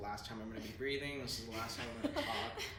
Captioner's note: giggles